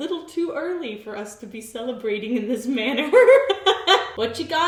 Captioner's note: laughs